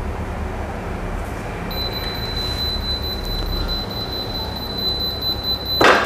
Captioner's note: beeping sound; press machine noise